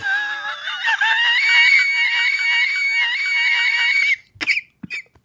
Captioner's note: Gay Banshee Laugh